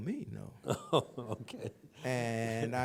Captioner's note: laughs